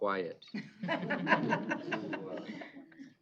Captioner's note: laughter